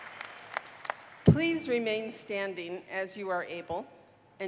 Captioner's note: applause